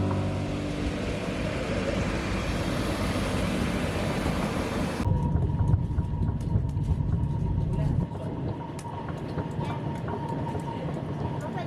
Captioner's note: soft cheerful piano music; sounds of moving train